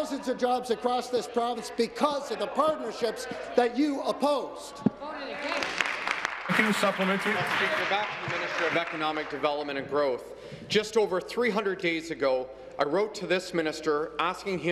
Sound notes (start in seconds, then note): 3.0 applause; 8.3 applause